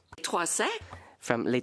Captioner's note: speaking French